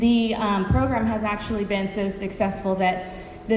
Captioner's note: none